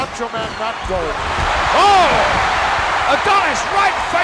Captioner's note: audience cheering